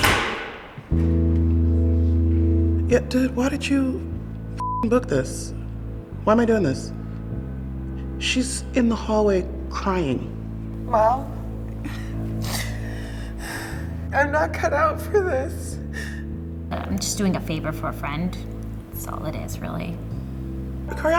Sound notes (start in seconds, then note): 11.6 sobbing